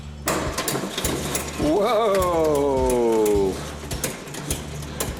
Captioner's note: engine turns over